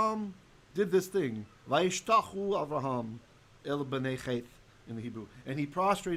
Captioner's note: Hebrew